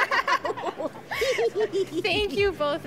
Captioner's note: laughs